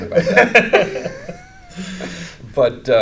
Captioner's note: laughing